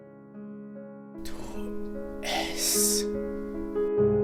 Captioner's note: whispers